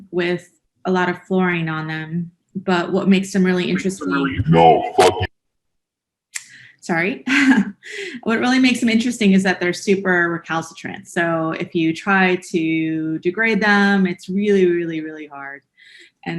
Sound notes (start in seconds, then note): 4.2 male Voice; 7.5 chuckles